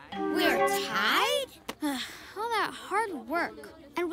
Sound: sighs

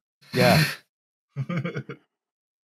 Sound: laughs

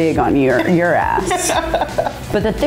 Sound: laughing

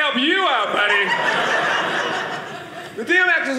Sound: audience laughing

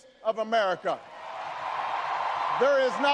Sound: audience cheers and applauds

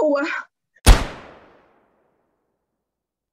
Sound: gun shot

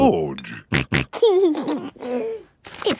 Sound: snorting and giggling

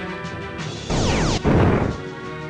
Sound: laser, clonk

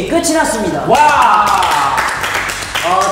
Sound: clap clap clap

